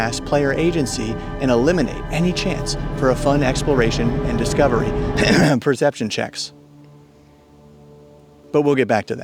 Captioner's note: cough cough